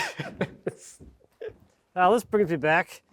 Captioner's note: speaker laughing